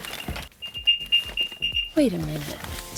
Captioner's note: beeping